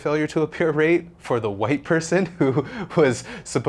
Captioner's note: laughs